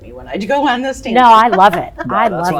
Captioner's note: all laugh